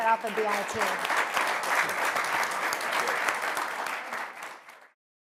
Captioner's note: applause